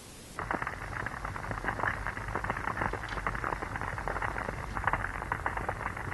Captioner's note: bubble, gurgle